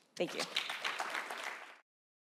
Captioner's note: applause